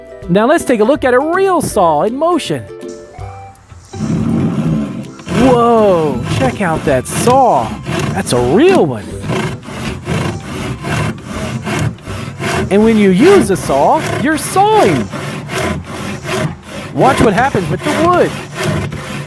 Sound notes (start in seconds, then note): 3.5 sawing; 9.4 sawing; 16.1 sawing